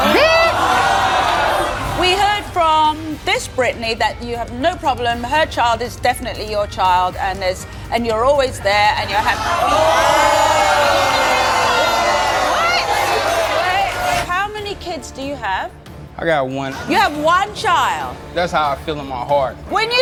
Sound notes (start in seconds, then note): 9.2 audience yelling